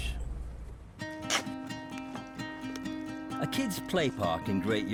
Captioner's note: light thoughtful music; shovel scraping